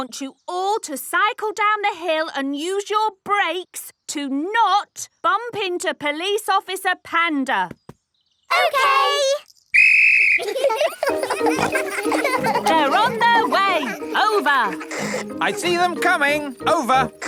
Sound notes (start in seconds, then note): 9.7 blows whistle; 10.3 giggling